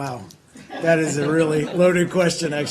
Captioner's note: laughter